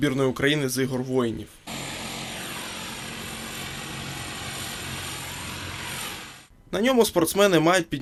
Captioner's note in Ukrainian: шум мотора літака